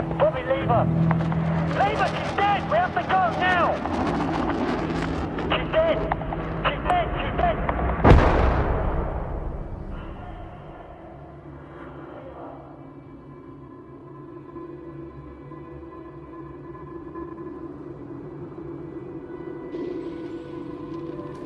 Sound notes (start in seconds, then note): 7.0 explosion booming; 13.5 dramatic orchestral music